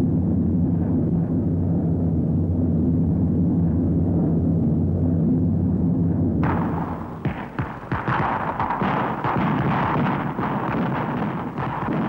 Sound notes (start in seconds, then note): 0.1 airplane propellers running; 6.4 guns firing